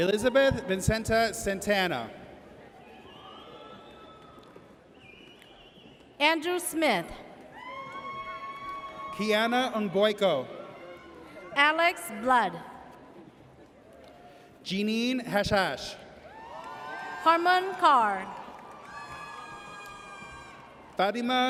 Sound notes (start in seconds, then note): 2.9 audience cheers; 7.5 audience cheers; 19.2 audience cheers